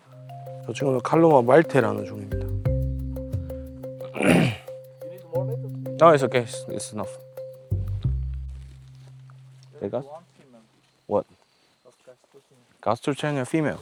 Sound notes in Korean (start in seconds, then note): 4.1 기침; 4.1 콧방귀